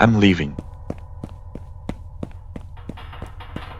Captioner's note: footsteps